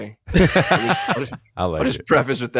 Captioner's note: laughing